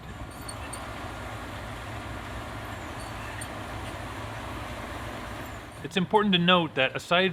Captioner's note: harvester sounds